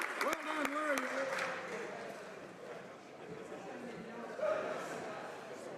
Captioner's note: cheering and Applause